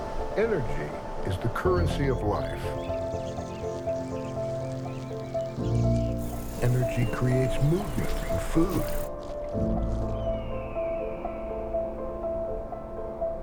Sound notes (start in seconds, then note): 3.4 birds chirp